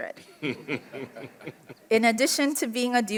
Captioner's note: group laughs